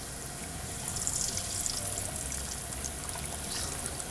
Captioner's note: sizzling